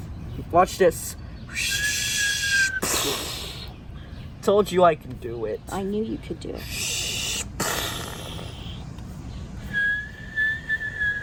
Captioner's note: whistling sounds